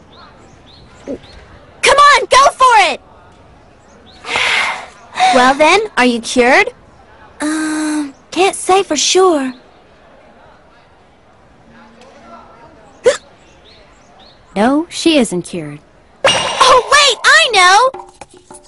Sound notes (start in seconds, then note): 4.2 Osaka exhales; 13.0 hiccups